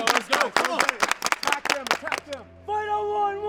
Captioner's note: everyone claps